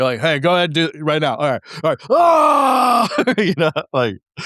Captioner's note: screams